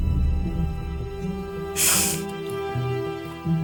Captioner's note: sniffles